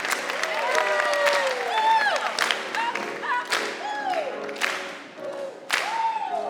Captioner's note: choir cheering and clapping; gentle piano music continues